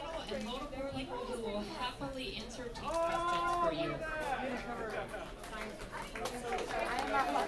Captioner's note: applause